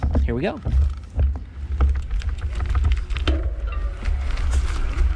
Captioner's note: clunking